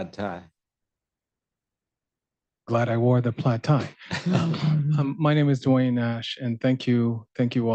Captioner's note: laughter